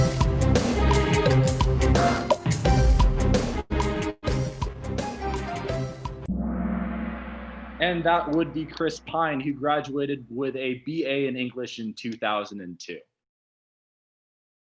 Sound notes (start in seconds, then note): 6.2 gong